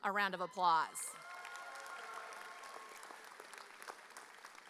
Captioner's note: graduates cheering